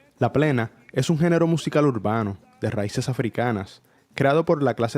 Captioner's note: narrator speaking Spanish